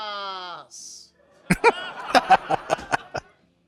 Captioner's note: laughing